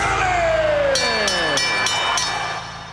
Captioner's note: bell rings